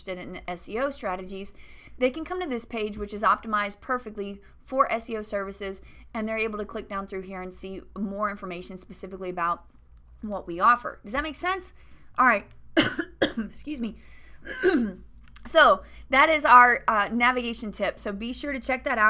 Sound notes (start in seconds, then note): 12.8 coughing